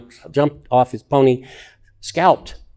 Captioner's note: none